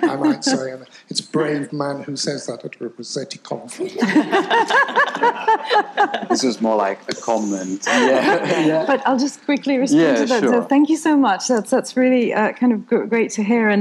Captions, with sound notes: I might say, and it's a brave man who says that at a Rossetti conference. (people laughing) - This is more like a comment, yeah? - But I'll just quickly respond to that- - Yeah, sure. - So thank you so much. That's really kind of great to hear,